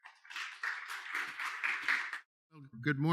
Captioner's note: audience clapping